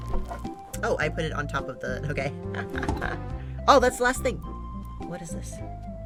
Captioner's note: laughs